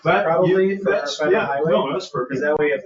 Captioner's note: people chattering